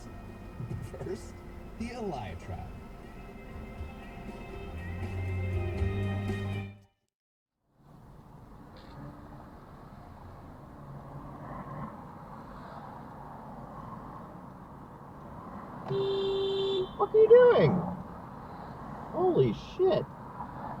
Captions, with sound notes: *HOOOOONK* da fuq are you doing?!? Holy SH!T